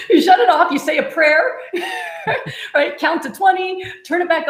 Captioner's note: laughs